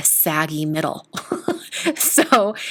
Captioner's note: laughs